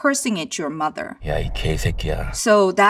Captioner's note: Deok-su speaks in Korean